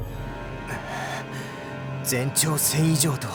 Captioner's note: grumble